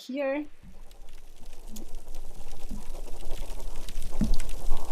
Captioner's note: fish crackling